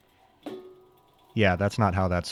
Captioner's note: hand wheel clanking